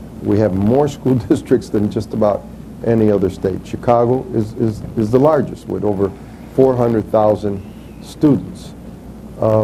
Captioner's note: chuckles